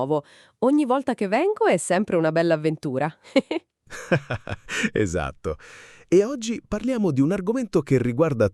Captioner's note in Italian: risate